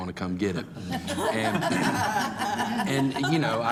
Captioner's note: group laughing